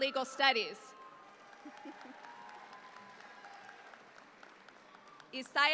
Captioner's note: audience applauds